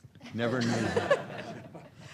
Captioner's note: laughter